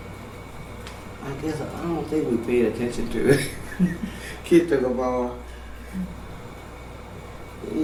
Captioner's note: laughter